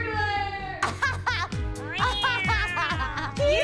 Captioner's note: laughs